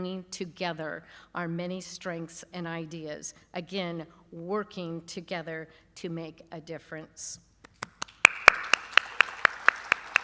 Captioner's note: applause